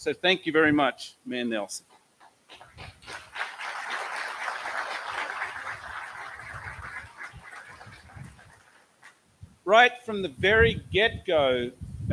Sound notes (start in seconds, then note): 2.5 applause